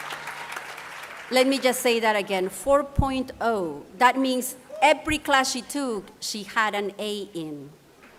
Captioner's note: applause